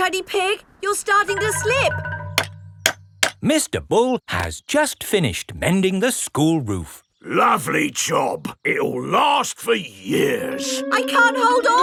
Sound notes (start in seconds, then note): 3.0 clanking